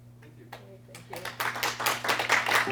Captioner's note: applause